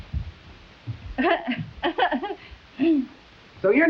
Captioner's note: Myrtle laughing